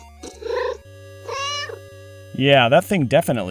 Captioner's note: meow